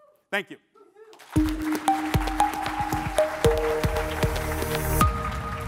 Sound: audience applauding

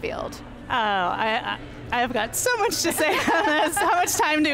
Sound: laughs

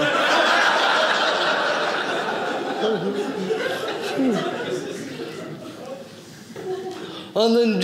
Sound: audience laughing

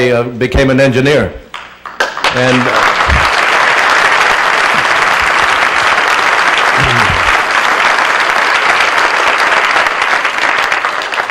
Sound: applause

